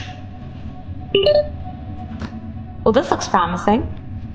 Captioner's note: beeping